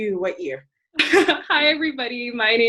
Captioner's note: laughing